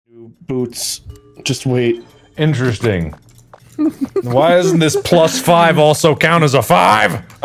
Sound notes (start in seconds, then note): 3.8 laughers